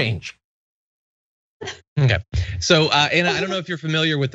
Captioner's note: laugh